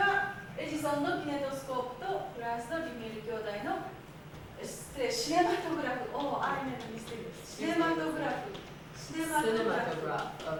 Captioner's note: speaking Japanes